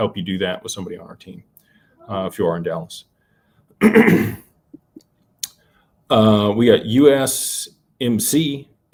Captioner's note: clears throat